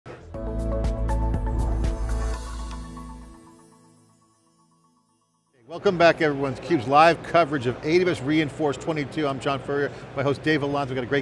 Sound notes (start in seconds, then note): 0.2 upbeat electronic music; 1.9 logo sparkles